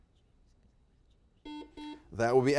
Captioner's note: buzzer beeps